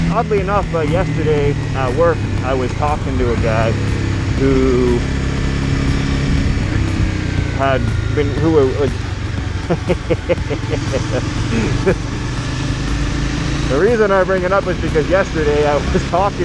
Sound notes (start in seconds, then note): 6.6 laughing